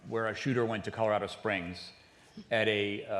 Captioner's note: none